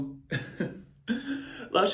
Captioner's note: giggles